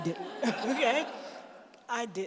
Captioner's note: laughter